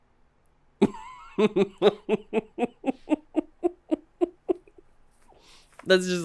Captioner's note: deep chuckle